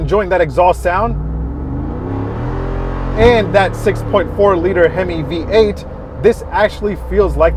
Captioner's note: engine revving